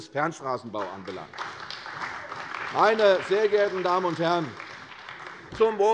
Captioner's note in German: Beifall bei der CDU und dem BÜNDNIS 90/DIE GRÜNEN